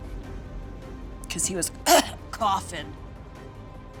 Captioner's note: coughs